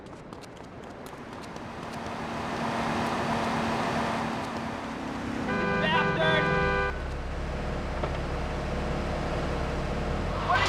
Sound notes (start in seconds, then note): 1.4 muffled yelling; 5.4 horn honking; 7.2 muffled yelling